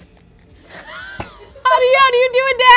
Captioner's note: laughing